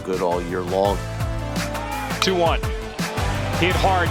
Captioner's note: voiceover